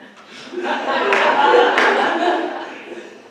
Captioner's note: laughter